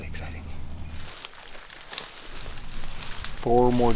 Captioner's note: grass cracking